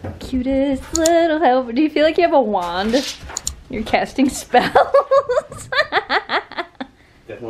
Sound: laughing

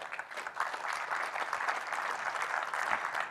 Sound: applause

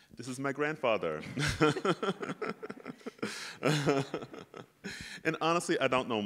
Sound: laugh

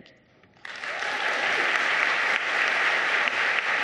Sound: applauding

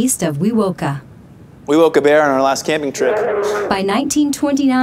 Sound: bear growling

